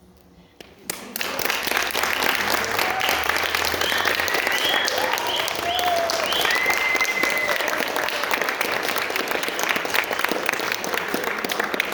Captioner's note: applause